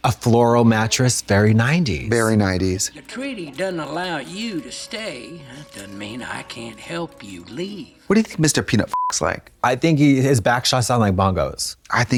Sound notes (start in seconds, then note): 8.9 beep